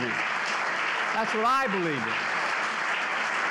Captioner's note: applause